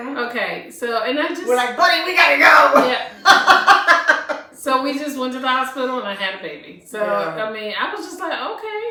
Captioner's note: laughter